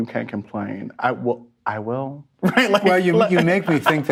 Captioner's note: laughs